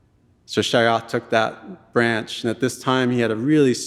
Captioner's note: speaking in Tlingit language